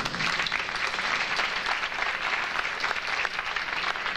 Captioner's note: audience applauding